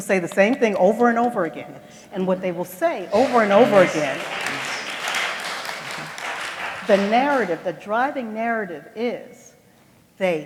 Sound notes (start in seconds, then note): 3.0 applause